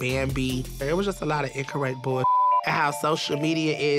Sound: beep

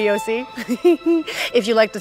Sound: giggles

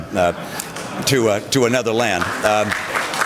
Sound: applause

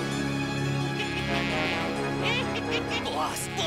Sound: laughing

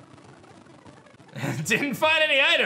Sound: laughs

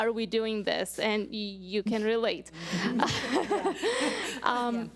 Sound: laughs

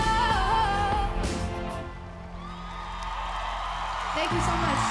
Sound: audience applause

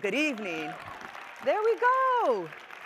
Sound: audience applauding

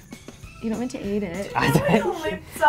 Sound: laugh

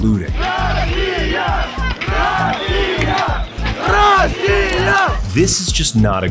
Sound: Crowd Cheering: Russia! Russia! Russia!

